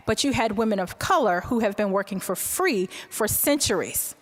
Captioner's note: none